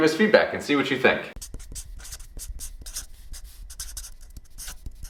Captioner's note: marker squeaking